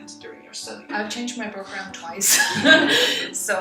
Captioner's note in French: rires